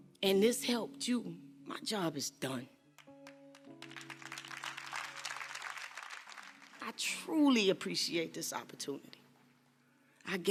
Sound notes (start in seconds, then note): 3.0 crowd claps